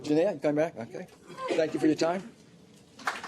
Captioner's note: applause